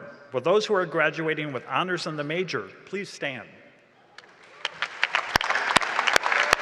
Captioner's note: applause and cheering